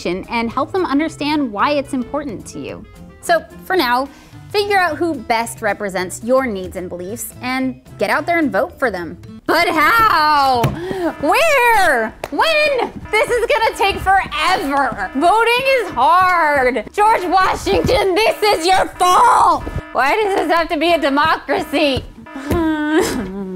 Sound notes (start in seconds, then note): 9.9 alarm starts; 15.1 alarm continues; 17.0 alarm still continues; 20.0 yep, more alarm